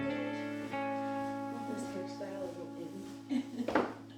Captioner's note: background chatter